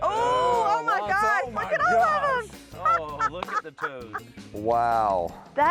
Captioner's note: laughs